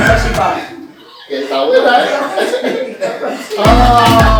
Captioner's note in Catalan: castellà; riure